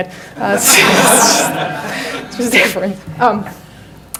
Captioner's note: audience laughs